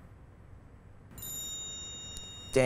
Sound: phone chimes

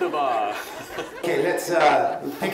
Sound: laughs

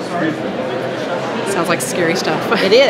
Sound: crowd chattering

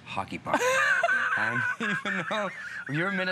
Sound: laughter

